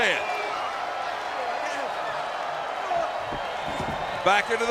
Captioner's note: crowd cheering